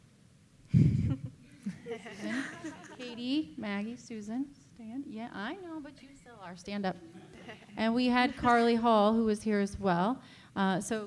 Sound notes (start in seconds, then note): 1.5 laughing